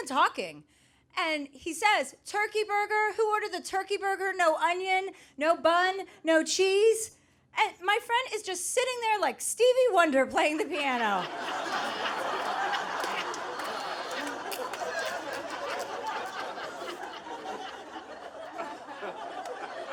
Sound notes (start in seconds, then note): 11.8 audience laughing